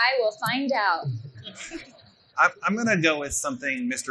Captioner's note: laughing